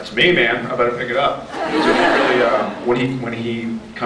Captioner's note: laughs